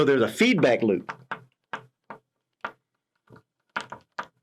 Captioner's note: pen tapping